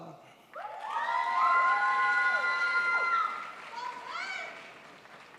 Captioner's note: crowd applauds